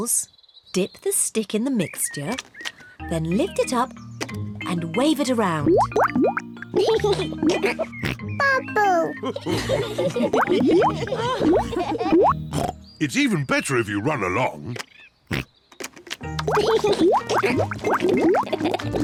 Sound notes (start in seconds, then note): 8.5 laughs and snorts; 9.0 all laugh; 12.1 oinks; 16.3 laughs